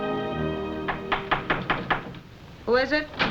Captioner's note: knocking